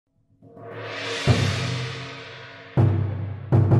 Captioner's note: gong sounds